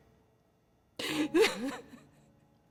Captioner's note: cries